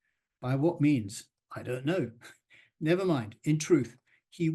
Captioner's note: chuckles